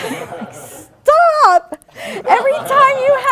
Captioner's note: laughing